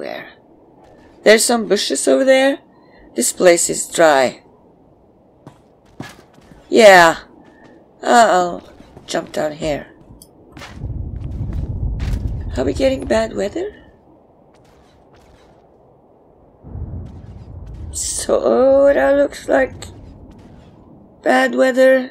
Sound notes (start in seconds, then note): 10.7 thunder